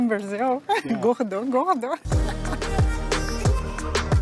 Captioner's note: laughs